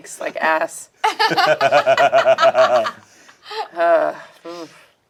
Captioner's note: group laughs